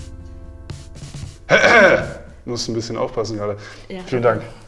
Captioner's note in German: räuspert sich